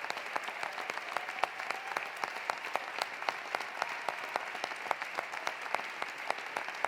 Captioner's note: applause continues; cheering continues